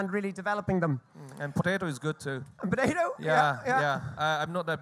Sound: laughs

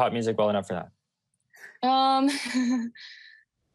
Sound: chuckling

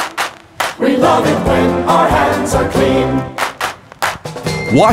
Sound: clap clap; clap clap

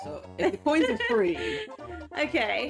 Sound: laughs

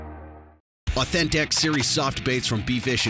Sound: voiceover

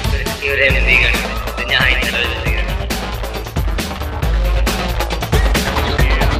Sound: murmur

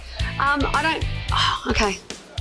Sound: sighs

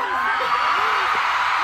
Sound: chuckles

